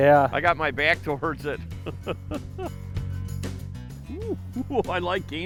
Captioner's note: laughs